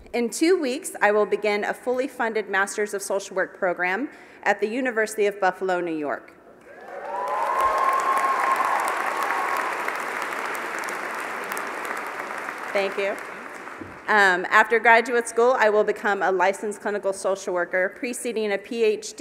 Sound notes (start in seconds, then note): 6.7 applause